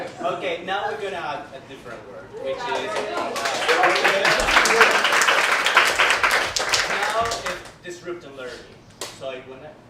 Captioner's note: applause